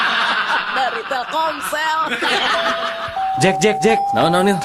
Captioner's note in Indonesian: tertawa